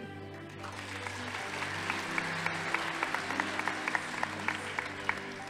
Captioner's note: audience applauding